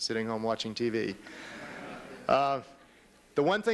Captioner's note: laughter